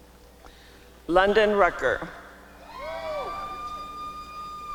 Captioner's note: applause and cheering